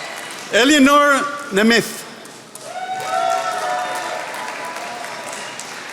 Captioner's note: attendees applauding